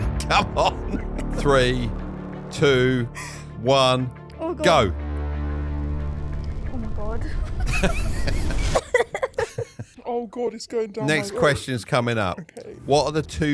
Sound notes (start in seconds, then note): 0.0 laughing; 5.8 dramatic music; 7.4 laughing